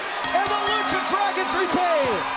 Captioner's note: bell ringing